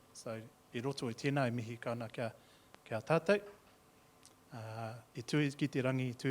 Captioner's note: speaking in Maori